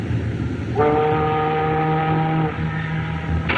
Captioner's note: ship's Horn Blows